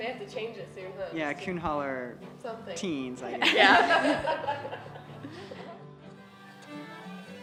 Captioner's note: laughs